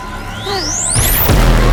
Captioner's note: laser sounds